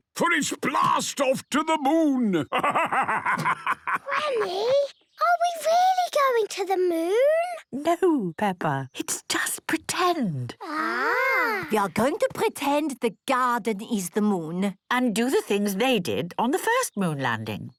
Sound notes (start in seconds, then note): 3.8 whispers